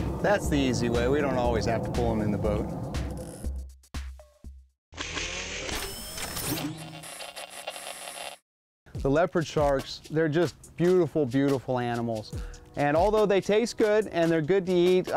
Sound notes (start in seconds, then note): 4.3 static; 5.0 mechanical sound